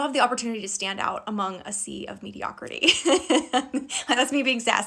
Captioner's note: laughing